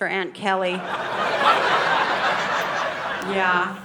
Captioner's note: audience laughing